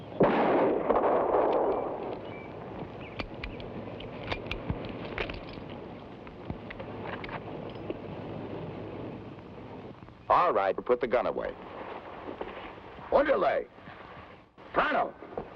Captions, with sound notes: (gunshot blasts) (gun clicks) - All right, put the gun away. Andale, pronto!